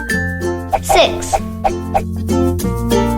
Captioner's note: whooshing